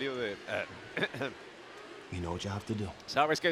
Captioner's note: cough